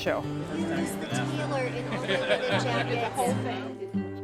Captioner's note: conversations